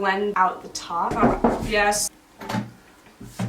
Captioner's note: knock on door